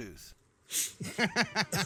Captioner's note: blows; laughing